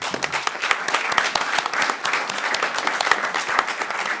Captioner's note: applause